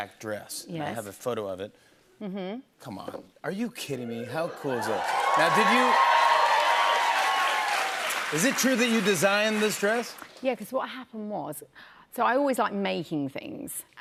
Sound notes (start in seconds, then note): 4.5 cheers and applause